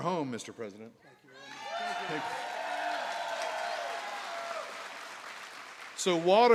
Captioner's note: applause